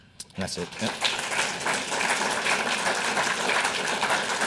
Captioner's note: audience applauds